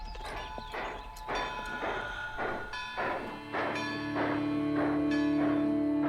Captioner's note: horn blaring and engine chugging